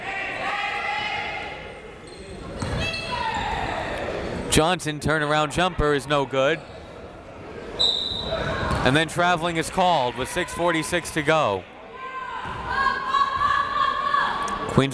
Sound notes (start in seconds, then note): 0.0 crowd members shouting; 7.8 whistle tweeting; 13.2 crowd members shouting